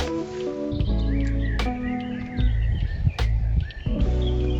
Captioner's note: morning birdsong